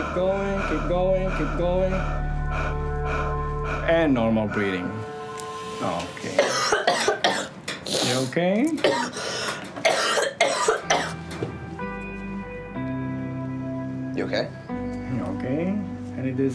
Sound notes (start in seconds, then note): 3.5 breathing; 6.3 coughs; 9.8 coughs; 10.4 dramatic music